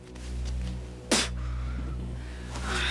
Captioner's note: spits